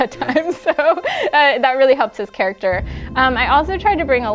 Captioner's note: laughing